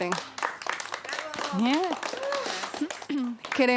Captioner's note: aplausos